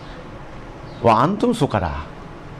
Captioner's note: Arabic